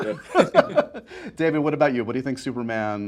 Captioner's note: laughing